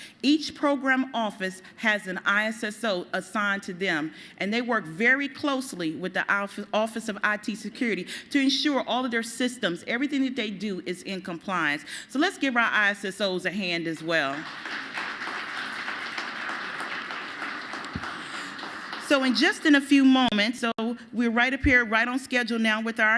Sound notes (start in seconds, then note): 16.7 applause